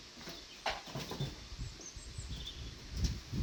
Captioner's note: birds singing